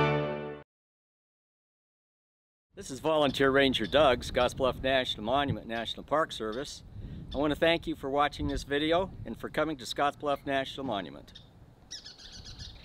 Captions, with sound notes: - This is Volunteer Ranger, Doug, Scotts Bluff National Monument, National Park Service. I wanna thank you for watching this video and for coming to Scotts Bluff National Monument. (birds chirping)